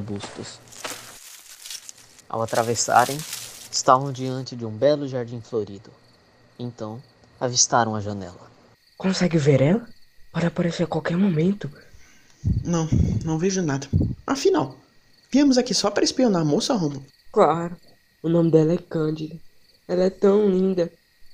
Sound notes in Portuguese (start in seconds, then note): 0.0 Ramos de folhas sendo puxadas; 9.0 sussurro